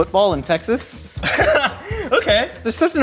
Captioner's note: laughing